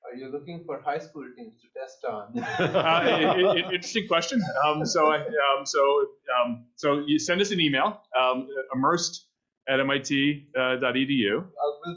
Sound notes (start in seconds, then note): 2.4 laughing